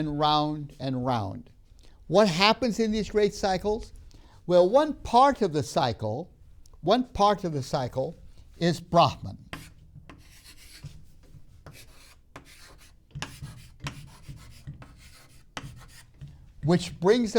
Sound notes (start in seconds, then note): 9.0 marker writing on board